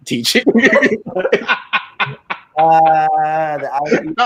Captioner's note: all laughing